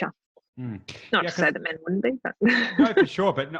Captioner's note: laughing